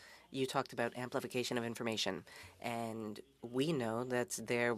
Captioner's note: speaking French